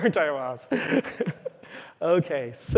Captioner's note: laughs